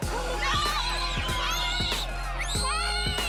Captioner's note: children screaming